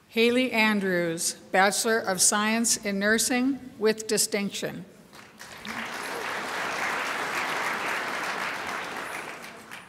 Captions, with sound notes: Haley Andrews, Bachelor of Science in Nursing with distinction. (crowd applauds)